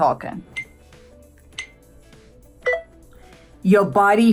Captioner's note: countdown beeps